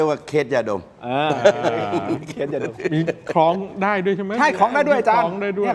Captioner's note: laughs